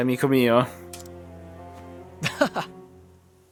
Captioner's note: eheheh